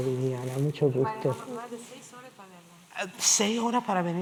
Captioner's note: spanish